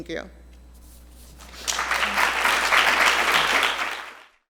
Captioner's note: audience applauding